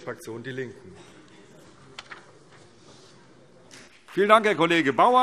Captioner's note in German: Vereinzelt Beifall CDU und BÜNDNIS 90/DIE GRÜNEN